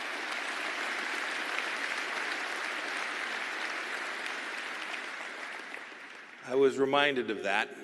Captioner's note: applause